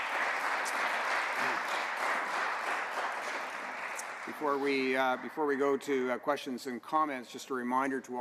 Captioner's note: applause